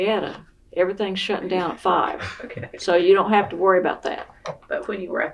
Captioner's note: laughs